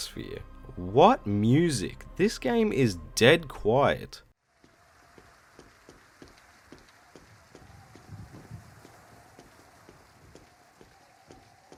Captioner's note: quiet gameplay